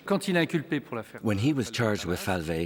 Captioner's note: speaks in foreign language